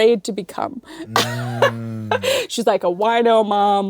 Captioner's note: giggles